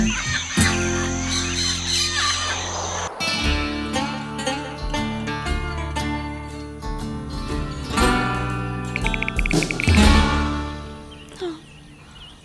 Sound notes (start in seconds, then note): 0.0 birds; 9.0 typing; 11.3 sigh